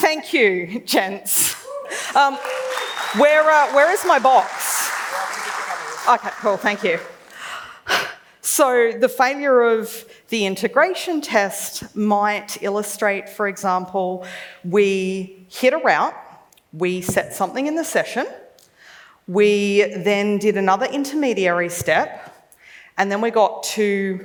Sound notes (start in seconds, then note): 1.5 clapping; 8.4 sighs